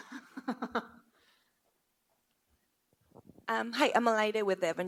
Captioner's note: panel member laughs